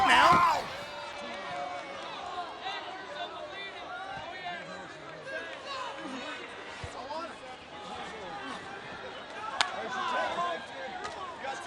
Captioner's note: applause